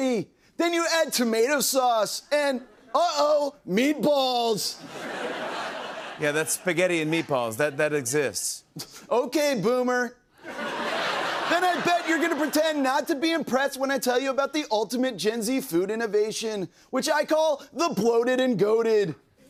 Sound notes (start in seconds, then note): 4.8 laughter; 9.0 scoffs